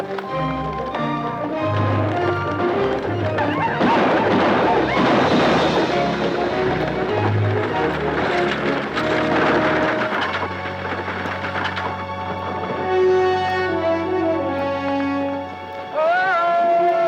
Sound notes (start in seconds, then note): 0.2 dramatic orchestral music; 3.7 Apaches howl; 3.7 guns fire